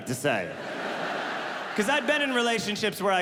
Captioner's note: audience laughing